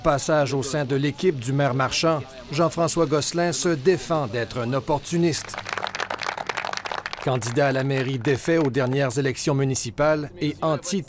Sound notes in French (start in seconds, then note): 5.3 applaudissements